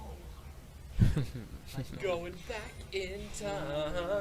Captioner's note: chuckles